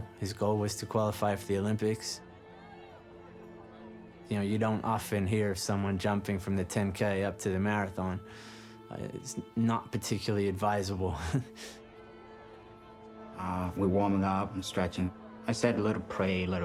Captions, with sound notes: His goal was to qualify for the Olympics. You know, you don't often hear of someone jumping from the 10k up to the marathon. It-it-it's not particularly advisable. [chuckles]